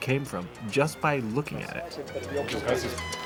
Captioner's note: speaking Spanish